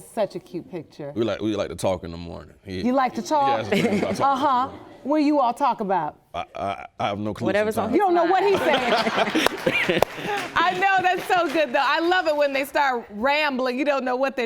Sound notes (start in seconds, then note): 4.4 stammering; 8.4 all laughing